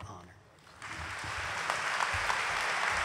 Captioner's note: applause